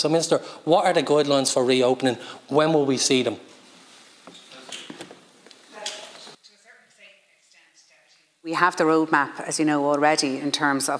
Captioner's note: shuffling noises